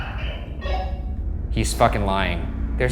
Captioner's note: radio beeps